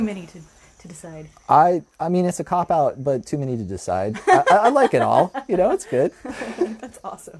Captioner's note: laughter